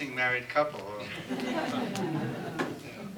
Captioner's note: laughter